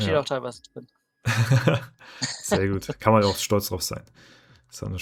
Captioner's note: laughter